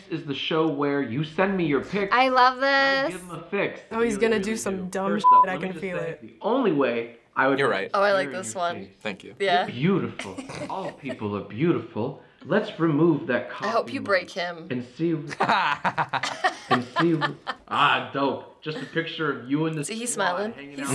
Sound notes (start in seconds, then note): 15.3 laughs